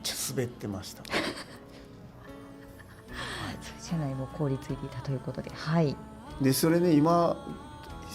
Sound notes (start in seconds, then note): 2.2 laughs